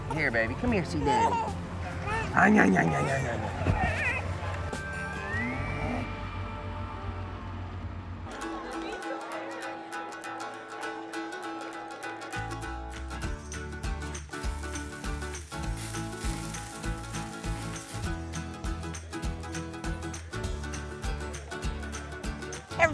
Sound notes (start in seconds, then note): 0.9 cooing